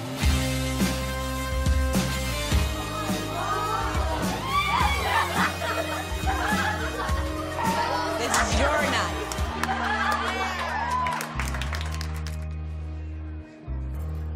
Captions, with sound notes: - Oh my God! - Oh my God! (girls squealing and laughing) - Oh my God! - This is your night! (girls laughing)